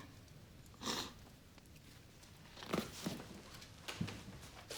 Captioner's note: woman sniffling